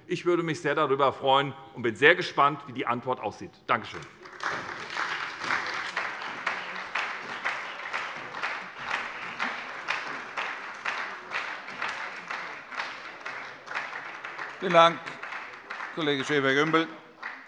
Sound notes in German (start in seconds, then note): 3.9 Beifall bei der SPD